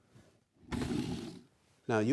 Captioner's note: wood scraping together